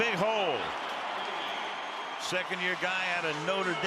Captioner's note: cheering